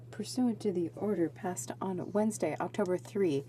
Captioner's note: speaking in french